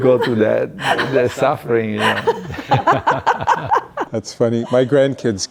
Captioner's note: laughing